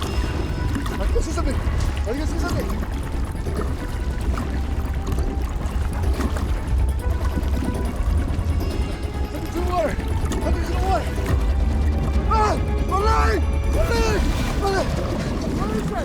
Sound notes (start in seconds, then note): 5.1 suspenseful dramatic music; 5.1 water lightly lapping